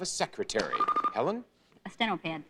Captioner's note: bell rings